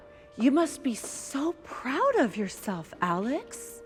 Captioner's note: none